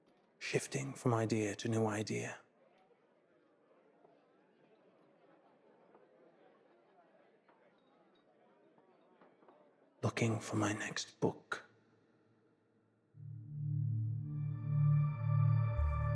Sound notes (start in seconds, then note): 2.4 people chattering in background; 13.2 murky music